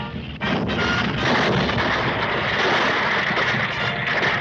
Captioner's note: triumphant music; debris clattering